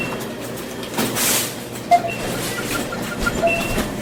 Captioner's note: cart rattling